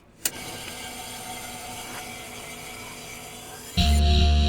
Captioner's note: a click, then static